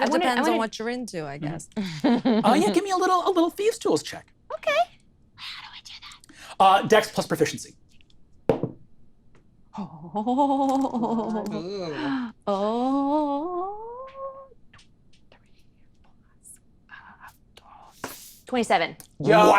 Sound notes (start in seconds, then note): 10.2 whispering